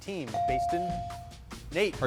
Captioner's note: bell chiming